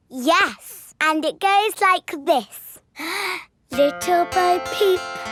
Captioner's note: inhales